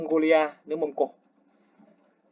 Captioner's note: Vietnamese